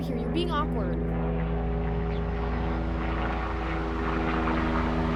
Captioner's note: plane roars overhead